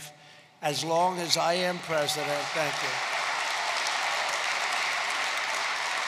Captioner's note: applause